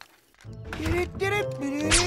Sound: humming

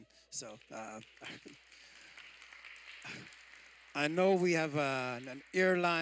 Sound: applause

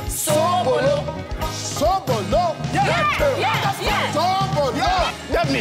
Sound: speaking foreign language

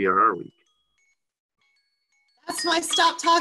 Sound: alarm ringing

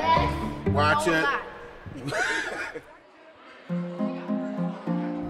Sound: laughs; journeying music

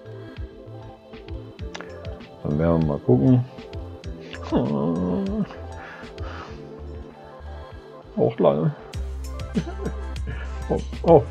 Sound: whines; fake cries

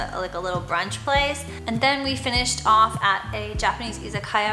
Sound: foreign language

